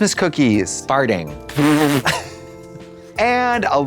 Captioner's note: Trixie splutters